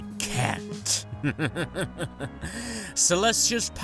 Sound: sunset laughs evilly

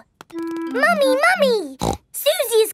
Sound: snorts

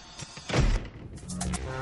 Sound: door closes

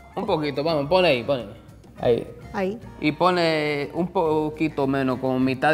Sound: speaking in foreign language

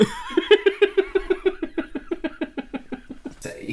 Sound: car Won't Start Laughter

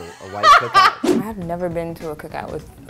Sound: laughing

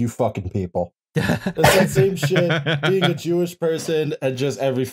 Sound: laughter

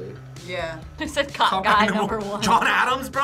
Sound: laughs

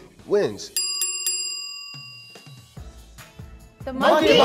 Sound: bell dings

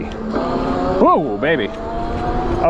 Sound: bike motor revving

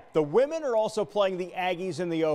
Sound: cheers

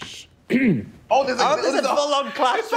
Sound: clearing throat

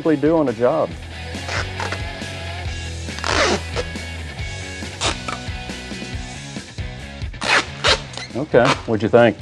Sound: tape peeling

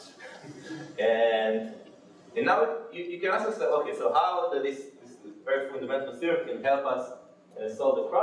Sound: laughing

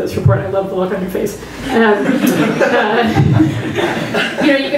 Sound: laughter

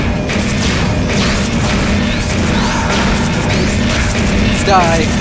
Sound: gunfire

